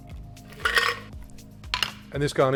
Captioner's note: ice rattling; ice clinks